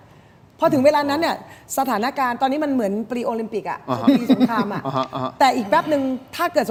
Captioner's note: laughter